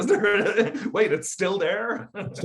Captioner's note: laughing